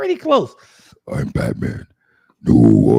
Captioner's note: growling